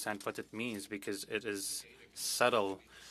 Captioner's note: speaking French